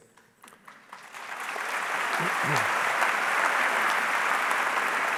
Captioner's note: audience clapping